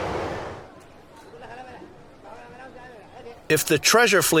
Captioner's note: people chattering